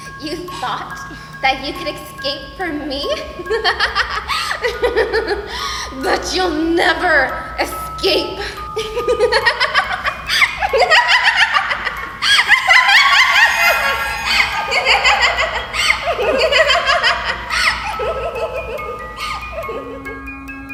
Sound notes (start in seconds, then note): 3.1 Belladonna giggling; 8.5 Belladonna laughing